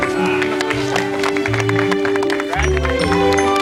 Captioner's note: Aplausos